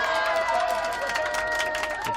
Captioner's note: cheering